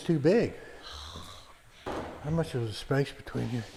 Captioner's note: scoffs